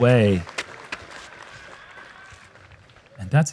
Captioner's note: applause